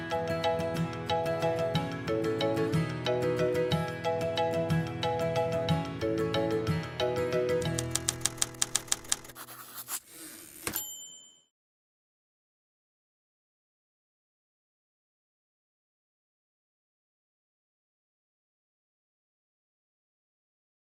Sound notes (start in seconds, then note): 10.6 typewriter dings